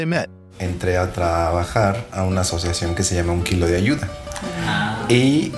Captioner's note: speaking in a foreign language